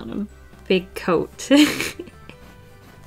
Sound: laughs

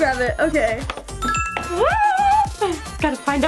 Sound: ding

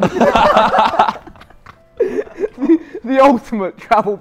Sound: Sidemen laughing

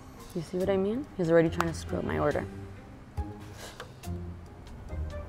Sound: sighs; sinister dramatic music

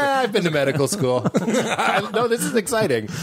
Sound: laughing

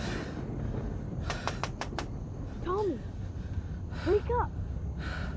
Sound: tapping

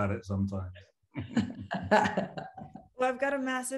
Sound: all laughing

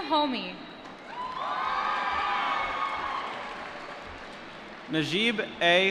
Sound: applause

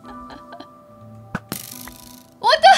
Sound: arrow twangs

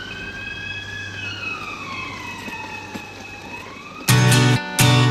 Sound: wheelchair motor revs; upbeat guitar plays

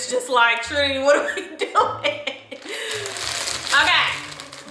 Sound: laughs

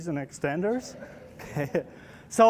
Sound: laughter

